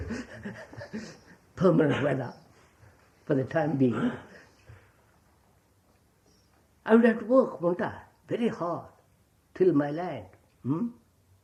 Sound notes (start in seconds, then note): 0.0 laughs